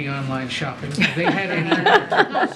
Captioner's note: laughs